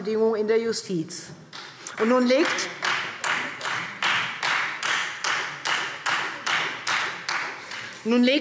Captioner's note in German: Beifall Freie Demokraten